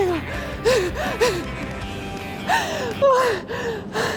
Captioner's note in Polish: śmiech wygranej